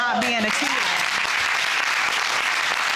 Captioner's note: all clapping